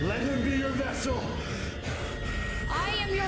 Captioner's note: respirando affannosamente